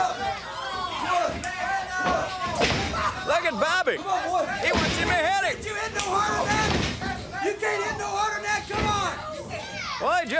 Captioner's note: crowd chatter